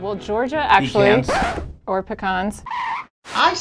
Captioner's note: record Scratch